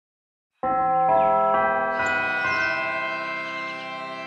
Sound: bell chimes

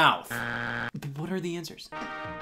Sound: buzzer beeps

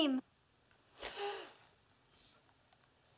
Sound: gasps

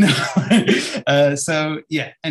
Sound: laughs

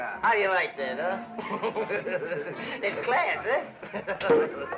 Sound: chuckles

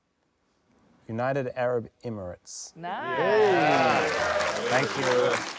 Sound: applause

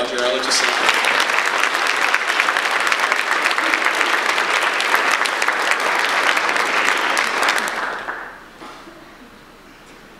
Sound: audience applause

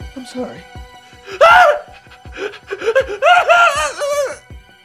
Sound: Dave cries

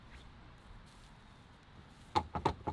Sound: none

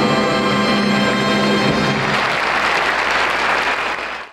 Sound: audience applauding

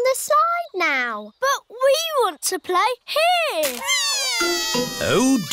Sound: crying

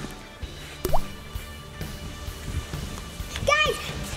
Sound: water dripping

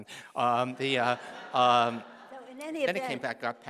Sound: audience laughing

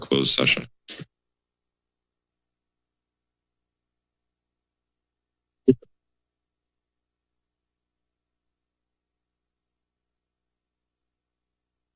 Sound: silence

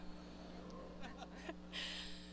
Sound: laughter

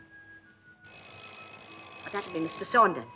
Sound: doorbell

